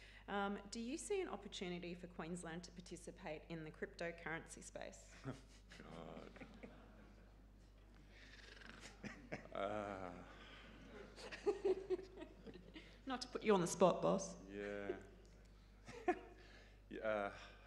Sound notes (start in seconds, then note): 5.2 laughing; 5.6 audience laughing; 8.4 gurgling; 8.6 laughing; 14.5 chuckling